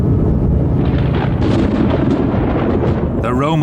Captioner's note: thunder booming